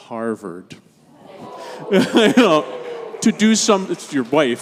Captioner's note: congregation gasps; chuckles